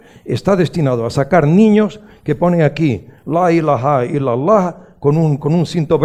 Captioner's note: he speaks in Arabic: "There is no other God that Allah "